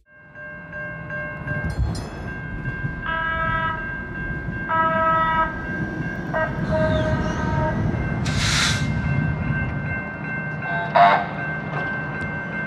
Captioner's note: trains and train horns